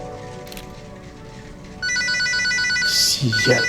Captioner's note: phone rings; speaking in foreign language